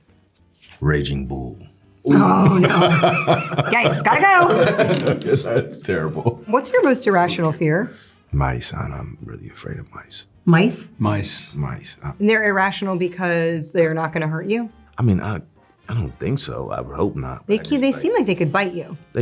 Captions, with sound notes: - "Raging Bull." - Oh, no. [all laughing] Yikes, gotta go! - That's terrible. - "What's your most irrational fear?" - Mice, I'm really afraid of mice. - Mice? - Mice. - Mice. - And they're irrational because they're not gonna hurt you? - I mean, I don't think so. I would hope not. - They seem like they could bite you.